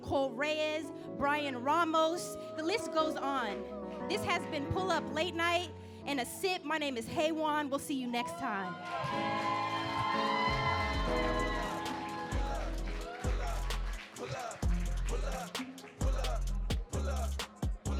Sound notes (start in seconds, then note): 8.6 audience clapping and cheering